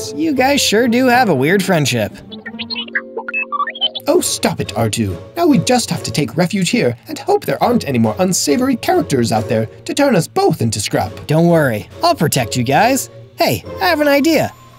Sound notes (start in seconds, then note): 2.2 R2-D2 agreement noises